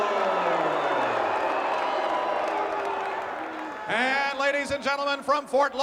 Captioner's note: applause